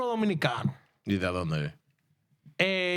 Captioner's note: speaking In Foreign Language